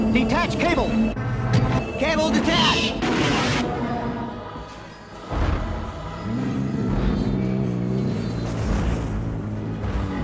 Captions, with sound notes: Detach cable. - Cable detached. [ENGINE WHINE] [GRUNTING]